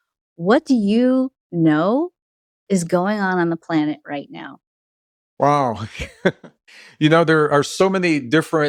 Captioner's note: Gregg laughs